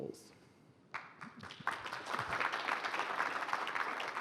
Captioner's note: applause